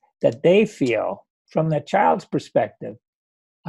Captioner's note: none